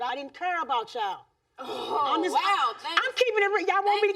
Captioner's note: audience gasping